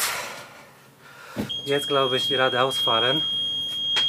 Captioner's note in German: lautes Piepen